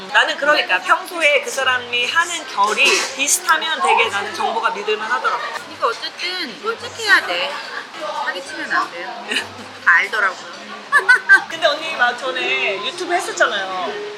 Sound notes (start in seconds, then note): 10.7 laughing